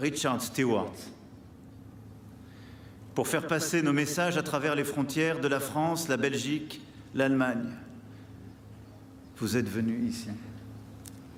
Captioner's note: speaking french